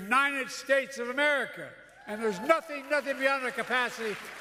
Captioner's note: applause